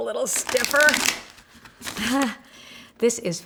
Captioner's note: cards shuffle